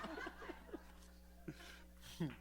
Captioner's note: laughter